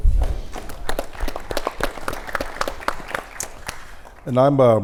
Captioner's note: audience applauds